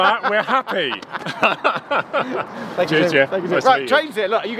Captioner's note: both laughing